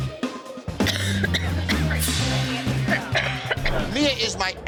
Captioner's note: coughing